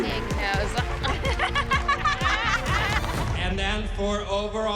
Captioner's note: both laugh